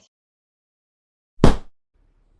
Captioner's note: stomping foot